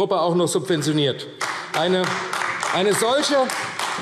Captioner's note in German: Beifall AfD